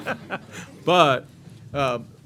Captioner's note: laughter